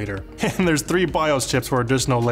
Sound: laughs

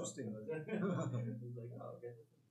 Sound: laughs

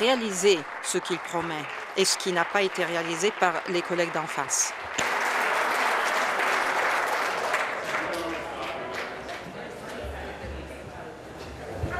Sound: applause

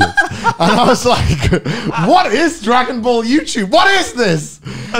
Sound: laughs; men laughing

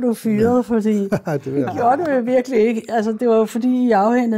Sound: laughs

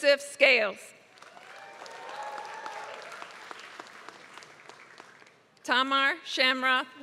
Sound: applause

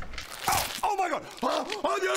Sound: nasty clawing noises

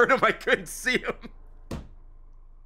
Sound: laughs

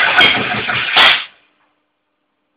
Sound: spark!!

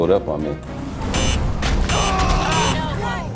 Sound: beep

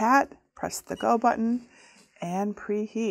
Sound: machine beeping

